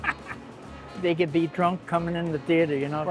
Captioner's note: laughter